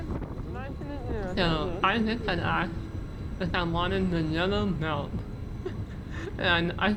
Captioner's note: laughs